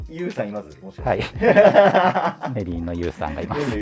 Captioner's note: laughing